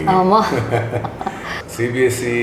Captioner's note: laughs